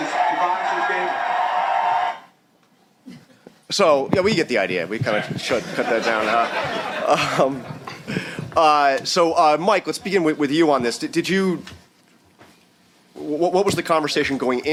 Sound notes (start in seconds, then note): 0.0 cheering; 5.5 laughter